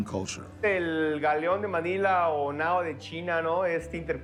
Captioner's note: in Spanish